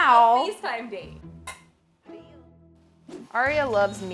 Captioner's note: clink